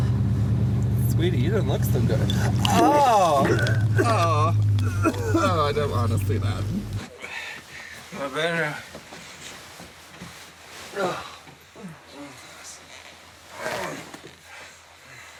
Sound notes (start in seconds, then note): 2.1 vomiting sounds; 10.9 sighs